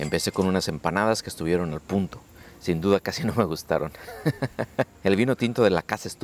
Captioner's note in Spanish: risas